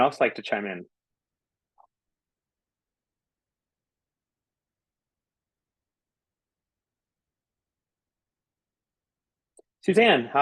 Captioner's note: silence